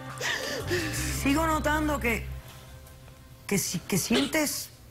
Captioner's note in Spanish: Sollozos